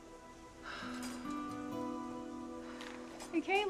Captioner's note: sad music; sighs